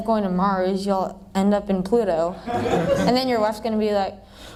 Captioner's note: laughter